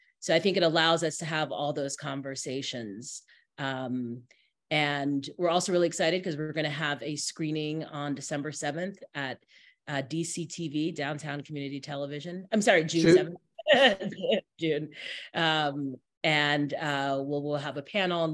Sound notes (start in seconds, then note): 13.0 laughs